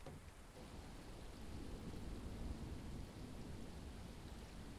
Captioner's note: rain tapping